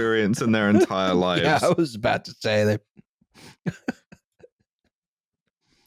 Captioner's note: laughter comes to an end